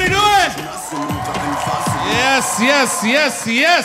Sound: audience cheering

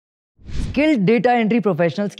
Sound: speaking hindi

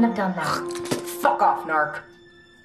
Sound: Ivy spits

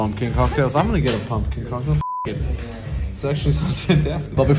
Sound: beep

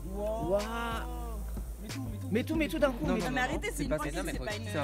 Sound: panics in the background

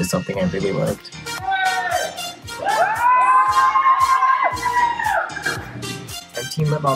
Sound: person shouts excitedly; crowd cheers

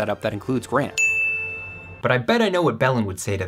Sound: bell dings

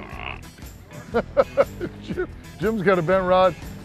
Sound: grunts; laughter

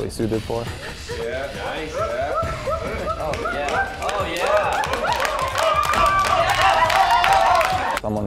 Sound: cheering

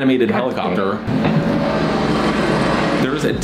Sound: helicopter noises in the background

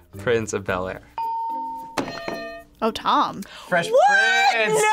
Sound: bell rings

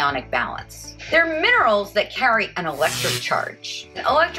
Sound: zap

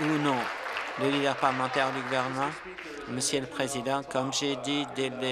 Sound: applause

